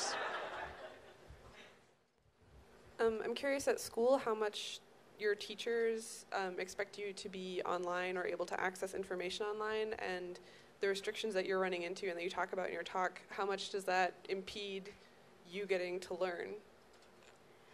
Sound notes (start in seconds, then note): 0.0 laughter; 3.1 voiceover